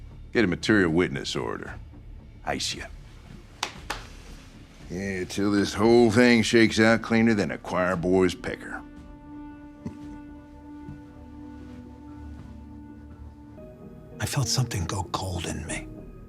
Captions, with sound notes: Get a material witness order, ice ya. (hand slapping) Yeah, till this whole thing shakes out cleaner than a choir boy's pecker. (Waylon chuckling) - I felt something go cold in me,